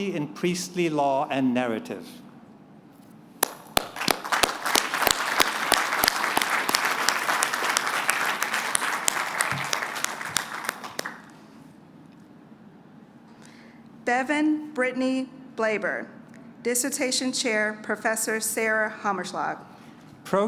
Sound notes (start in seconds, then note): 3.4 applause